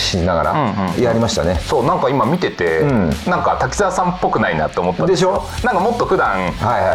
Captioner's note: laugh